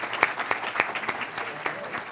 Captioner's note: clapping